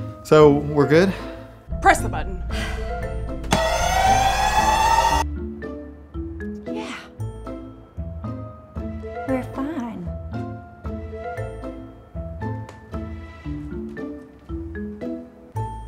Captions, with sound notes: So, we're good? Press the button. (alarm sounds) Yeah... We're fine.